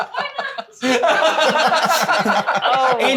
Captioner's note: laughing